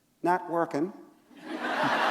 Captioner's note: laughter